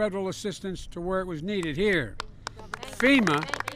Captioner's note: applause